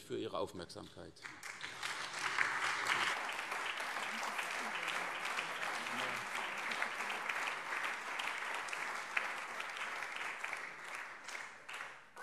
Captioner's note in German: Allgemeiner Beifall